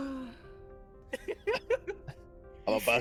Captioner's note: laughs